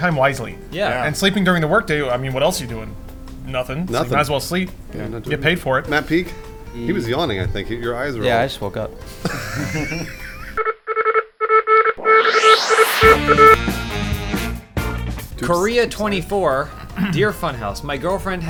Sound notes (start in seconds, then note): 9.7 wheezing; 10.2 Omar Tracker beeping